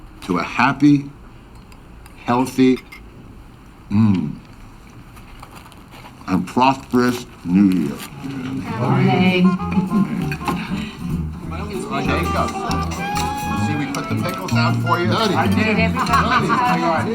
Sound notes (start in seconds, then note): 10.7 family chattering; 10.7 jazz music